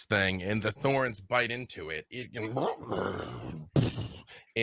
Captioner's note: roars